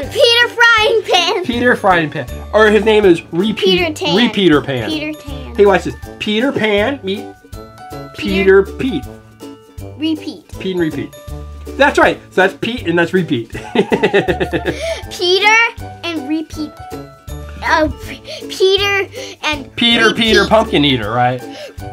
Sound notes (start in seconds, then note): 13.6 laughing